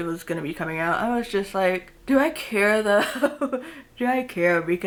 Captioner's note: chuckles